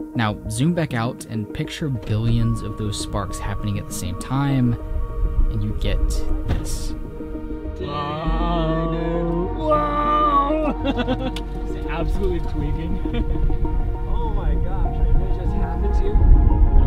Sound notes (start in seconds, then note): 9.6 laughing